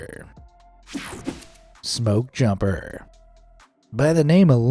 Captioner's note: screen whooshing